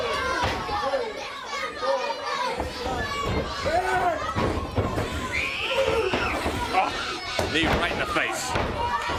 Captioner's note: crowd chatter